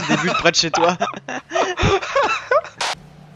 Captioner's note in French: rires